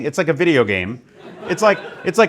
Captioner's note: laughing